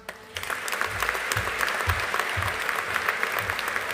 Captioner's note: audience applauding